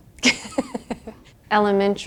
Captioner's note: laughter